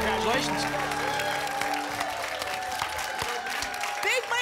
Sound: applause and cheering

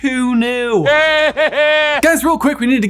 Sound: Voldemort laughs

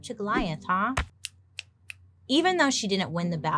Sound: fingers clicking

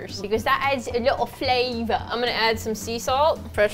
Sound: English accent

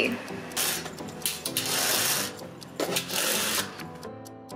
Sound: upbeat music; blinds chain opening

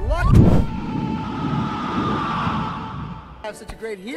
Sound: screams in AAAAAAAAAAAAA

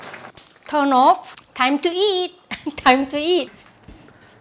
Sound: laughs

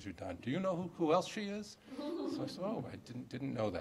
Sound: laughter

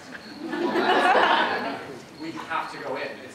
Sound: audience laughter

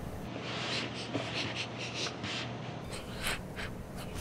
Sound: sniffing

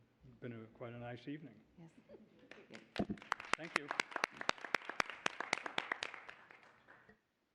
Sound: applause

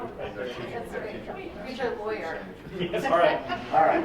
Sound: members chattering

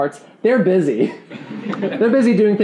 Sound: laughing

